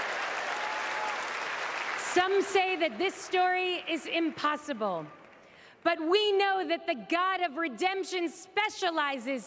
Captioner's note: applause